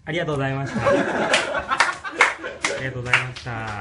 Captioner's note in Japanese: 爆笑